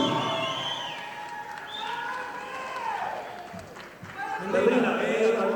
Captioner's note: audience applauding